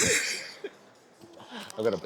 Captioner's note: laughing